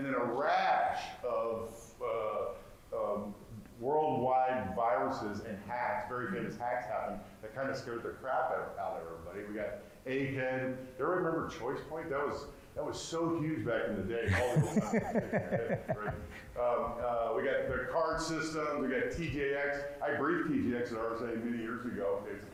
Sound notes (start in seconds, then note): 14.2 laughing